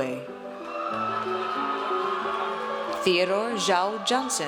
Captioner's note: audience cheers